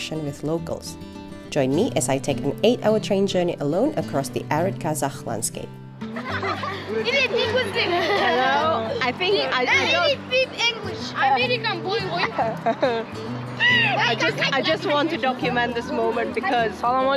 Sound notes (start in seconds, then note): 10.8 kids interrupting